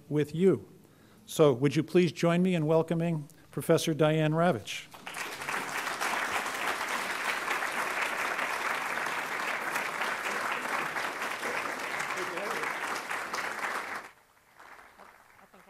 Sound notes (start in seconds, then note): 4.9 applause